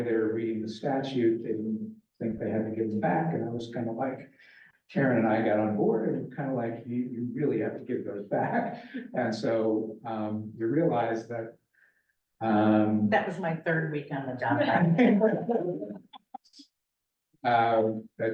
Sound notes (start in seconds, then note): 8.7 laughs; 14.6 laughter